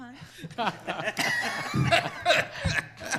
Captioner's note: laughs